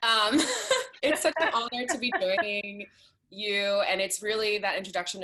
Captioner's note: laughs